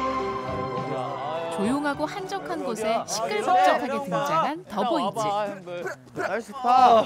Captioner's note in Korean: 웅성 웅성